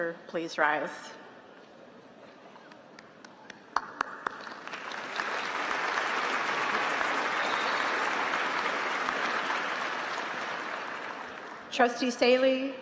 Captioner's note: applause